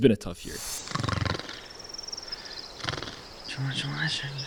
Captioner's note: snoring